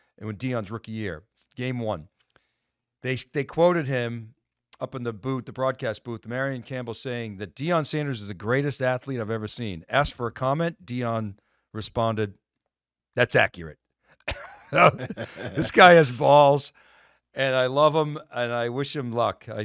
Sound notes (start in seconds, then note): 14.3 laugh